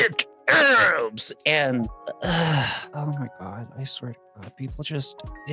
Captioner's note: sigh